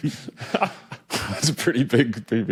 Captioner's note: giggles